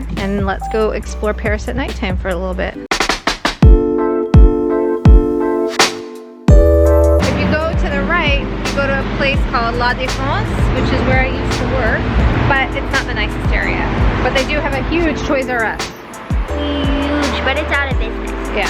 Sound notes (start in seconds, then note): 3.6 upbeat techno music; 9.6 speaks foreign language